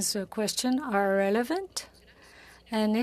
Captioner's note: speaking French